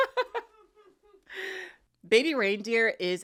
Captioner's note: laughs